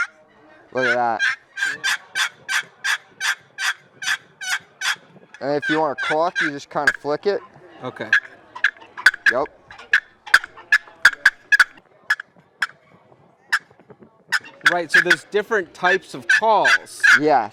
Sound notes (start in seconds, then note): 0.8 turkey sounds; 7.9 turkey clucking sounds